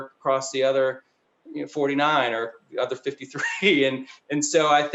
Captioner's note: chuckles